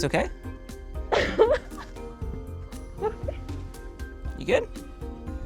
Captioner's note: laughs